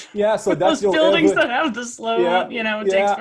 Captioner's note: laugh